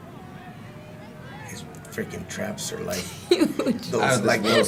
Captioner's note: laugh